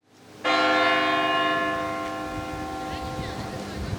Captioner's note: bell rings